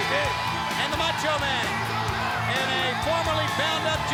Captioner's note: crowd cheering